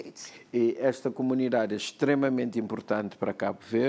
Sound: speaking portuguese

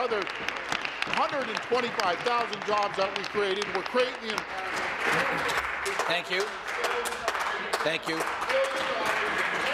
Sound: applause

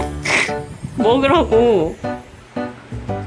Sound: and Mommy is snuffling

